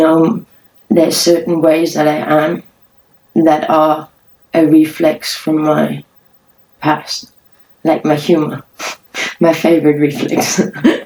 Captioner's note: laughs